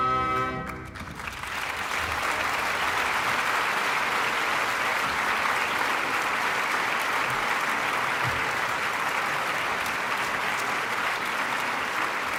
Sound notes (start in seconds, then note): 0.6 applause